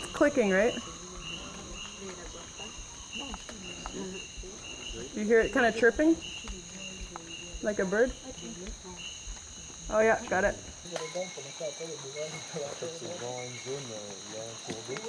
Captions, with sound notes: [Bird sounds] Researcher: You hear it kind of chirping? Like a bird? Oh yeah -- got it. [bird and insect sounds]